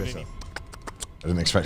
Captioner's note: clicking teeth